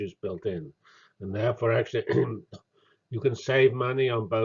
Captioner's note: cough